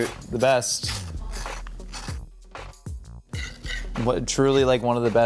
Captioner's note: spatula scraping